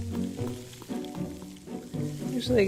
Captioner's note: playful music; rustling